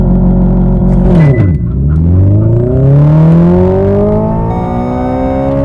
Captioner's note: car accelerates